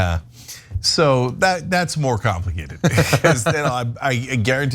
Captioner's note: laugh